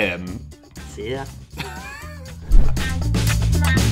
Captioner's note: lightly laughing; upbeat funk music